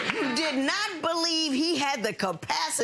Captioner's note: audience laughing